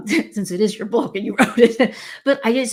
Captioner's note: laughs